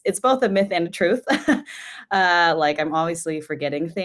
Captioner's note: chuckles